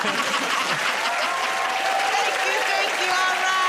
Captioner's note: laughter; cheers and applause